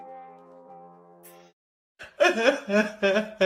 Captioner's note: crying sound effect